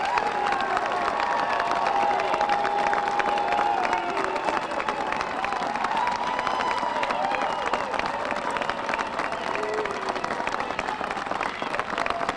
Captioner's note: applause